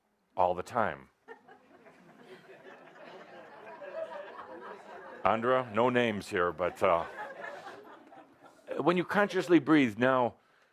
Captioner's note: some laughter as rolls his eyes